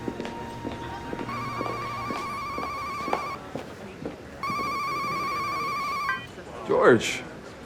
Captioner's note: Wes' cell phone rings